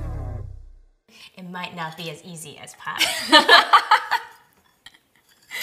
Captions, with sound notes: - It might not be as easy as pie. - (laughs)